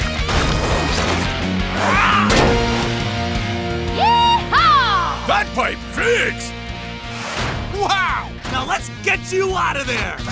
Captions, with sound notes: [roaring] - Yee-haw! - That pipe fixed! Wow, now let's get you out of there!